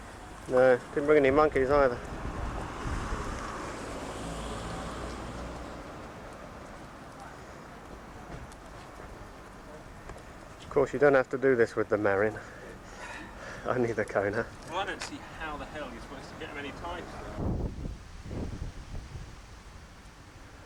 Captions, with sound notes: No. I didn't bring any monkeys either. Of course you don't have to do this with the Marin Only the Kona (laugh) For one I don't see how the hell you're supposed to get them any tighter (wind)